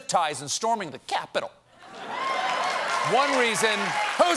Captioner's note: laughter; applause